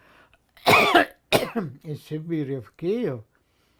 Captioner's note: coughing